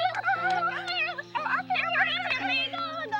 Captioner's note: both mock stammering